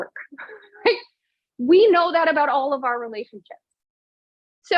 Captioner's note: laughs